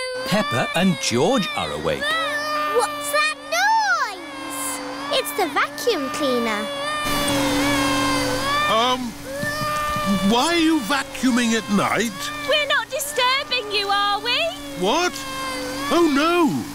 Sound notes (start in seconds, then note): 2.2 vacuum cleaner whirring; 7.3 crying